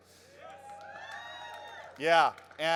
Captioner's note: crowd cheers